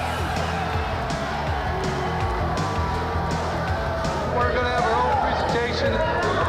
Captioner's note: crowd chatter